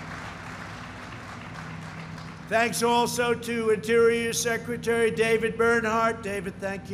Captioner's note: applause